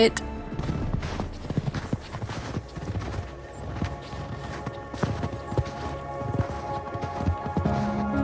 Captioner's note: music and sound of crunching snow while walking